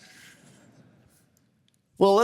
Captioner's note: laughter